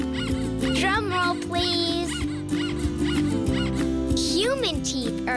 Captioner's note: squeaking